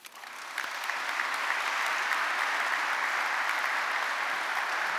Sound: audience applauding

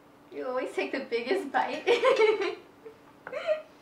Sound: laughs

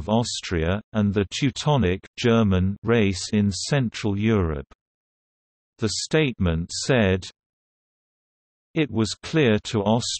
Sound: German

